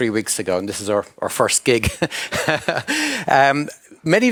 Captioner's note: chuckles